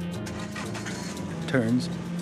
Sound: engine starts up

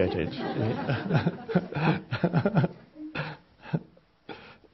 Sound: all laughing

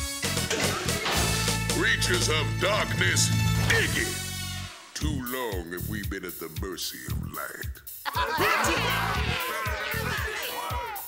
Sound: the crowd cheers; the crowd hisses

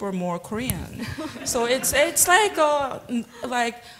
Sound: laughter

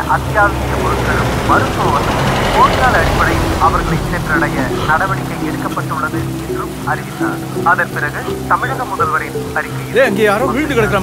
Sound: radio news

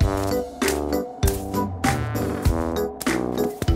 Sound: ice crunches

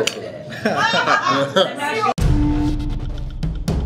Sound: laughs; drums playing

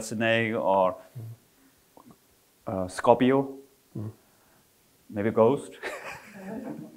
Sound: all laughing

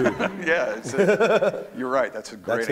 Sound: laughs

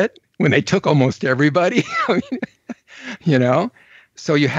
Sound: laughs

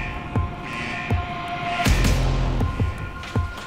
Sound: klaxon

